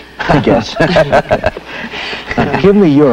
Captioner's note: laughs